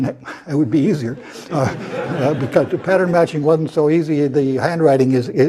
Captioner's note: laugh